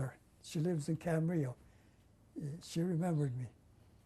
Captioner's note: non-english